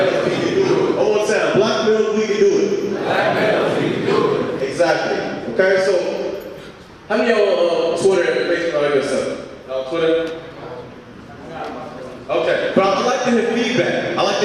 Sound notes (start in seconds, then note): 0.0 audience speaking